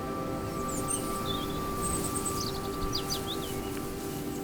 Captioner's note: birds chirping